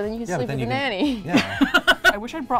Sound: laughs

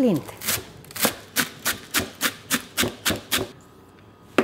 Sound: knife chopping

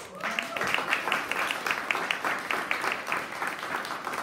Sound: audience applauding

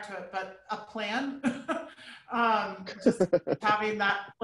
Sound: chuckling

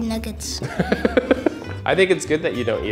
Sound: interviewer laughs

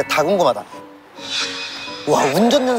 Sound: swoosh

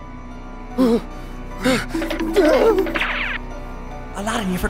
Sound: scared gasping

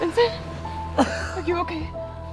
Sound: coughing

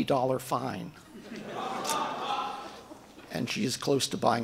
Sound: audience laughing

